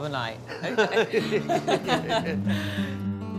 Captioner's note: laughing